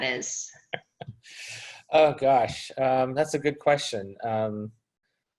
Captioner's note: chuckles